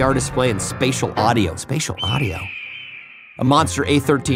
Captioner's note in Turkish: kuş çağrisi